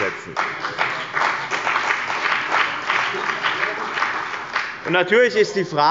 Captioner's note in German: Beifall bei dem BÜNDNIS 90/ DIE GRÜNEN und der CDU